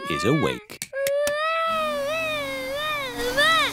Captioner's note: vacuum cleaner whirring